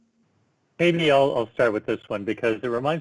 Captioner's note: murmurs